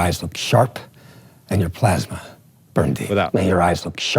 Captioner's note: movie dialogue plays